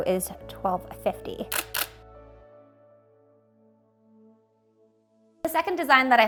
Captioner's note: camera shutter clicks